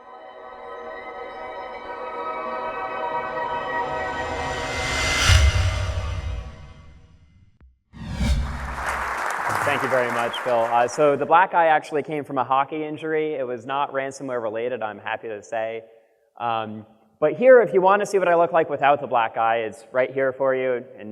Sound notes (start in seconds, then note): 0.0 ethereal music; 8.6 clapping